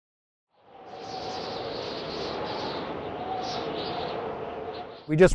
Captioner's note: howling wind